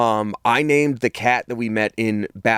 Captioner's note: none